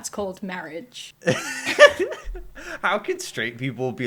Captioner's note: laughter